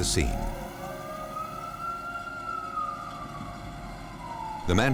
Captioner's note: sirens